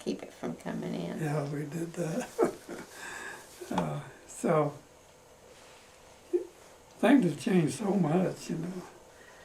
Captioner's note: laughs